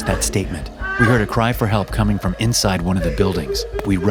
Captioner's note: crying and moaning